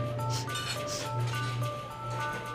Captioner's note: sniffs